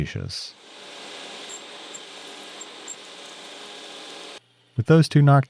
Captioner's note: machine whirring and squeaking